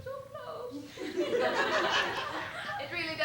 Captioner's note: laughter